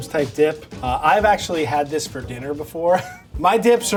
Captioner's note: chuckles